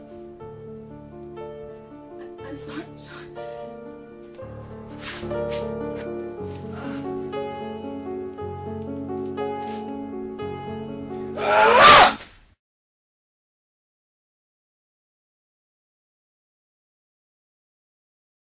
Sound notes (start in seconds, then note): 4.7 melancholy music; 11.4 grunting; 11.5 thudding